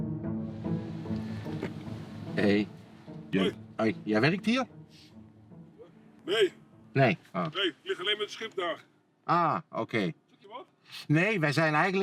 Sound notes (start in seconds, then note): 3.7 Dutch spoken audio